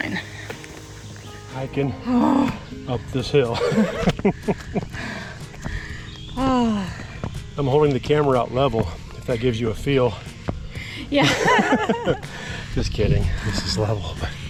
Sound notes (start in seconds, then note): 3.4 laughs; 11.2 both laughing